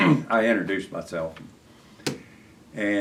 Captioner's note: laughs